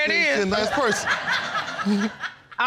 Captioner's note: audience laughs